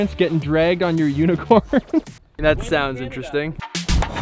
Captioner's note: laughs